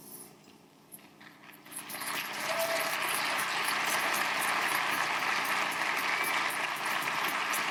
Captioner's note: audience applauding; audience cheering